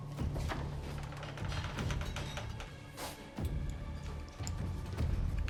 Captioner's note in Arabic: موسيقى متوترة; صرير الباب مفتوحًا ومغلقًا